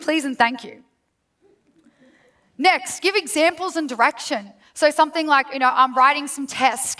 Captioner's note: laughs